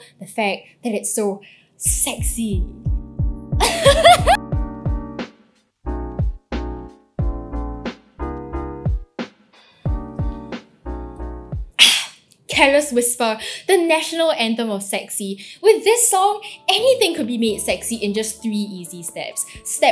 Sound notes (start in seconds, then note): 3.6 laughs